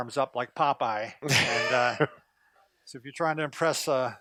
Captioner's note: laughing